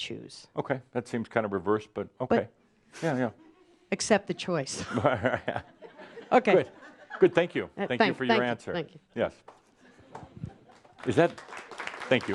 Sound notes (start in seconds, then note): 4.8 chuckles; 9.9 some applause